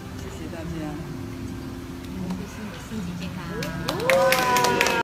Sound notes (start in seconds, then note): 3.5 Audience wish Shimu health and applause